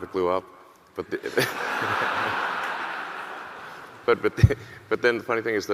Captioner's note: audience laughing